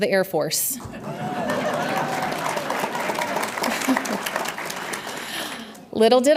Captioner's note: audience laughs and applauds